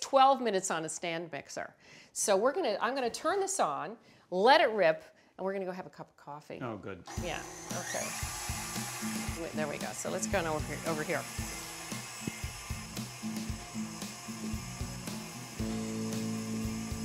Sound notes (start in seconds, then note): 12.6 light upbeat music; 13.7 mixer whirling